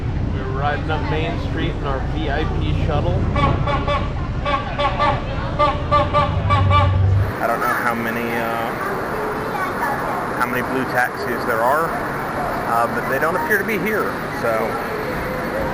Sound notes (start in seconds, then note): 3.2 horn honks " "